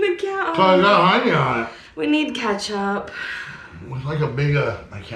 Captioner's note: sighing